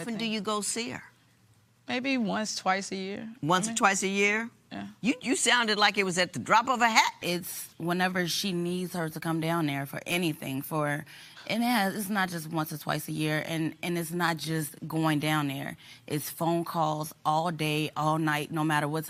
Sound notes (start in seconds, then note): none